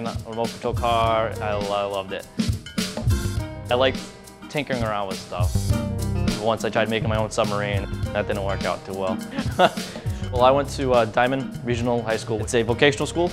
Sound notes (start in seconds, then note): 9.2 laughs